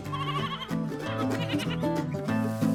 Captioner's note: goats bleating; upbeat music